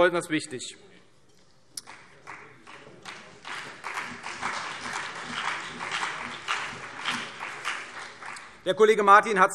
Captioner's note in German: Beifall CDU und BÜNDNIS 90/DIE GRÜNEN